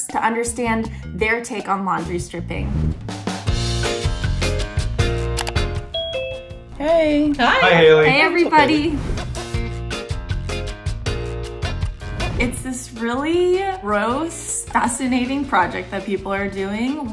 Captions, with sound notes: to understand their take on laundry stripping. (upbeat lively music) (bell chimes) - Hey! - Hi, Hailey! - Hey, Everybody! (upbeat lively music continues) It's this really gross fascinating project that people are doing